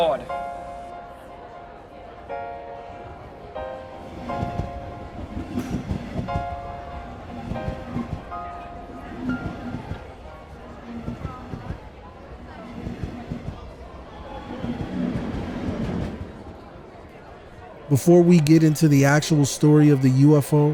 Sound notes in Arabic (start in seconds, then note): 0.0 تستمر الموسيقى الهادئة; 4.0 قعقعة القطار